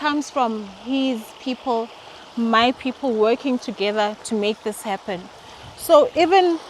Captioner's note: none